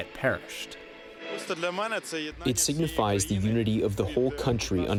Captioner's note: through translator